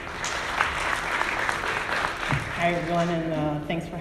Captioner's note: audience applauding